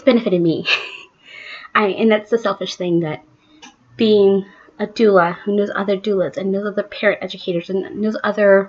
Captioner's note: laughs